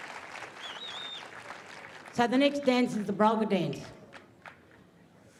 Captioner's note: cheering and applause